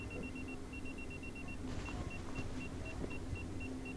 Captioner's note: pager beeps